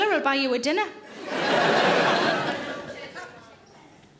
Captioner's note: audience laughing